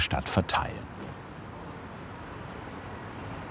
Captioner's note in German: Rauschen